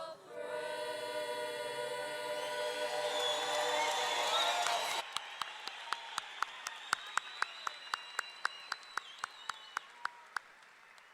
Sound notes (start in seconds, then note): 2.3 audience cheering; 2.8 audience clapping